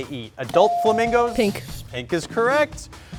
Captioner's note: buzzer chimes